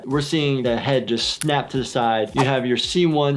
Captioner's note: snapping noise